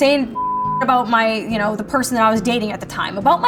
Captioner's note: beeping